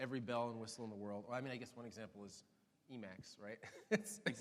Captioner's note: laughs